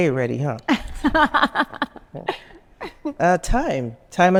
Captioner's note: laughing